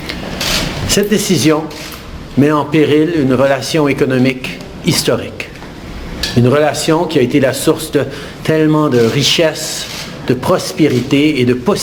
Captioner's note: french